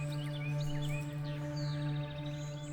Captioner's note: birds chirping